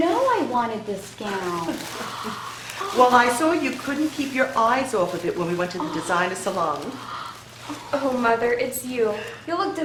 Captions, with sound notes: (giggling) - Well I saw you couldn't keep your eyes off of it, when we went to the designer salon. - Oh Mother it's you.